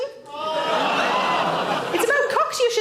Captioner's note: audience laughs